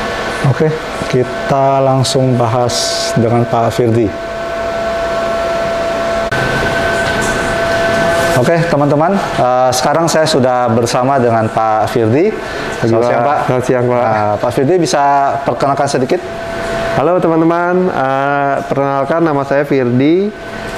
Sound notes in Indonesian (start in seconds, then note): 4.6 suara mesin